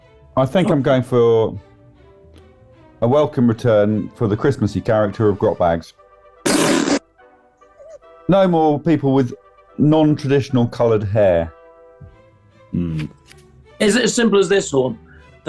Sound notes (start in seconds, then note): 7.6 sniggering